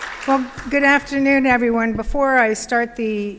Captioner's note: applause